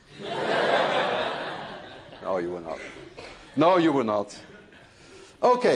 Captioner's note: laughter